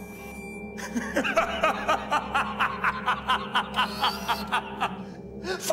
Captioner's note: beautiful, throaty northern laugh